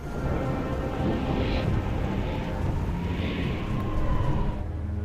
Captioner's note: rain and Thunder